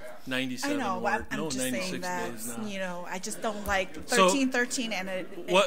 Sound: overlapping chattering

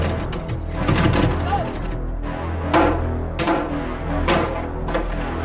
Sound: banging

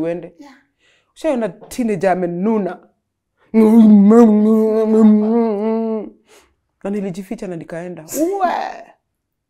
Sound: groans

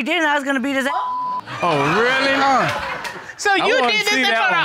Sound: all laughing

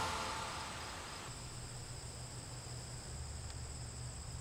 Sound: crickets chirping

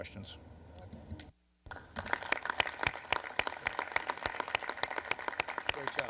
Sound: applause

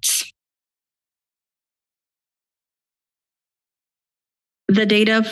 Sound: silence

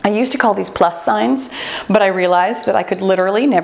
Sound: timer beeps

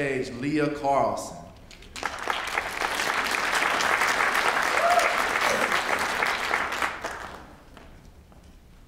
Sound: applause

